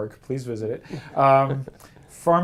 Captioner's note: laugh